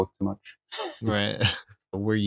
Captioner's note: laughter